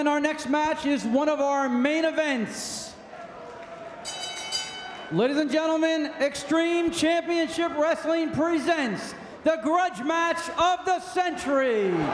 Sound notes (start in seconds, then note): 4.0 bell ringing; 11.0 spectators cheering